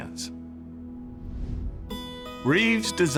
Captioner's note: transition whooshing